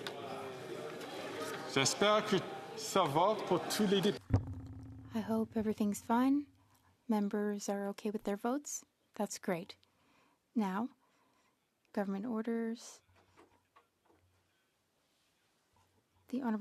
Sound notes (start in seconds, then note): 4.7 speaking French